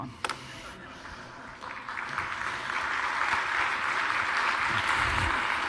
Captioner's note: applause